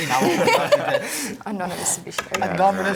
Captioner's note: laughter